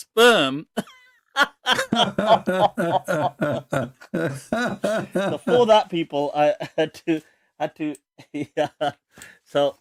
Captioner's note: Ketawa